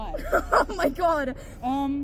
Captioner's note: laughing because WTF